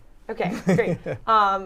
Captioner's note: laughter